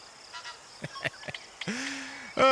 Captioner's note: laughs